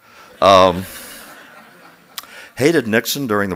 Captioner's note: laughter